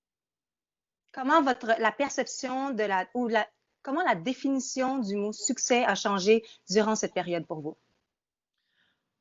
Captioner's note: speaking in French